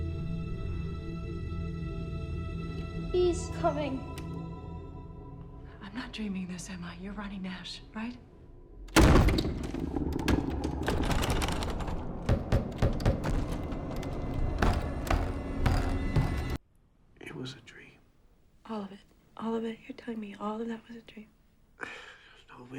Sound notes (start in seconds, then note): 8.9 door bangs; 10.0 door latch jiggles; 12.3 door knocking